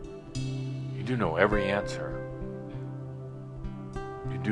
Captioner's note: none